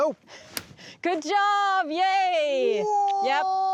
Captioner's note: cutting sound